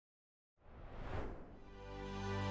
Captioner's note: air whooshing; gentle music